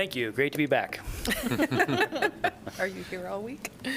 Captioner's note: laughter